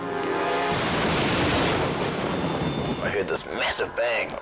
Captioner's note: thunder booms